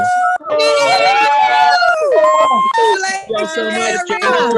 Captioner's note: graduates cheer